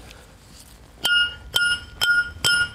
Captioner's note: metallic hammering